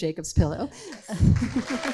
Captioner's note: audience claps